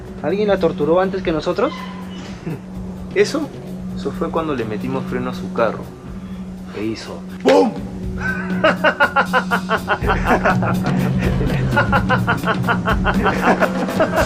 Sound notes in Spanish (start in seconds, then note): 8.2 risas; 13.5 eco de risas